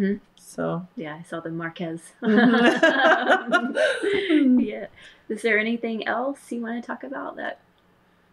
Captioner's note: laughter